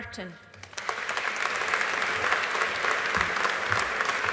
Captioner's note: audience applauding